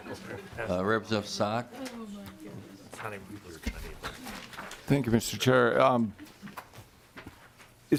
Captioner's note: laughing